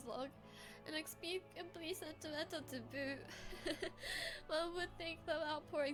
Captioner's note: laughs